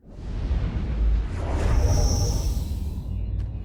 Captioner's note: whooshing